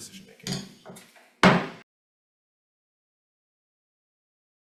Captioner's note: gavel banging